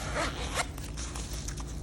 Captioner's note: camera case unzipping